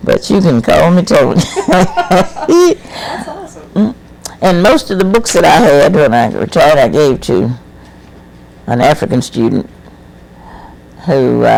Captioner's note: laughs